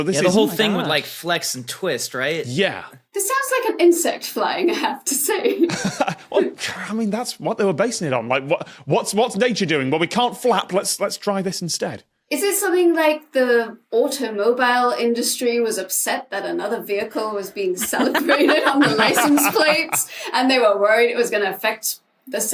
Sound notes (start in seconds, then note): 5.5 laughs